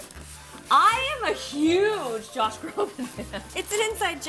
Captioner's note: laughs